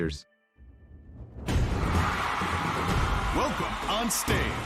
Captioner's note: crowd cheering